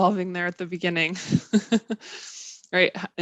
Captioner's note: laughs